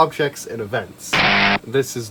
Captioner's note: bzzzzzt